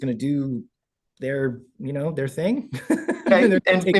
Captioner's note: laughs